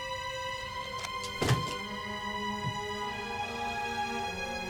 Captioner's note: door clicks; thuds